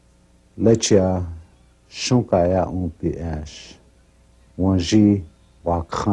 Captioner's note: speaking in foreign language